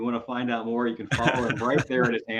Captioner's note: laughter